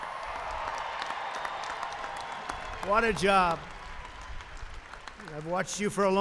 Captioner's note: applause